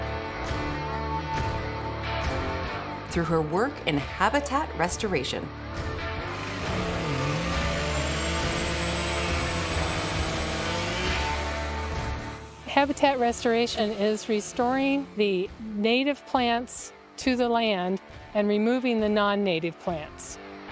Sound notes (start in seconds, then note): 6.8 chainsaw whirring